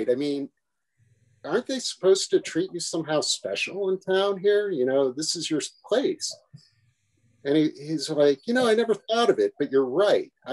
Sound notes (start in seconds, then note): none